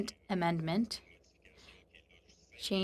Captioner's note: speaking French